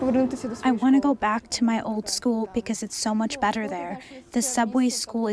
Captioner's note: through translator